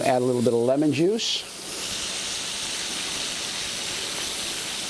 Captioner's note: sizzling continues